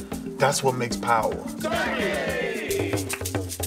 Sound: team cheers "Starkey!"

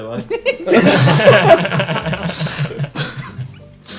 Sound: laughs

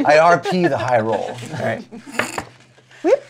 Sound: die clatters

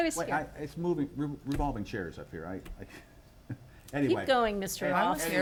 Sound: giggles

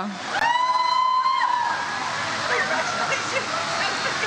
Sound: audience cheers

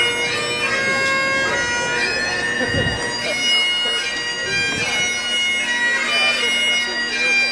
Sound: bagpipe skirling; chattering and laughing

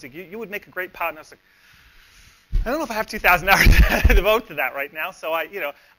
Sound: laughs

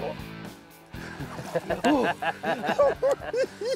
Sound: laughs; giggling

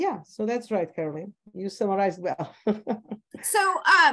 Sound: laughs

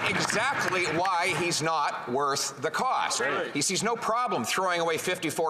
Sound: applause

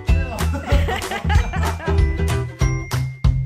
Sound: happy instrumental music; laughing; happy instrumental music

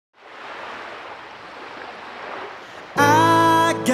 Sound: waves splashing; tender piano music

